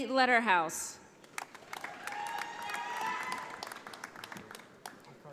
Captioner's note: audience applauding